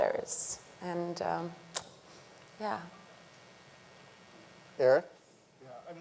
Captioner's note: clicks tongue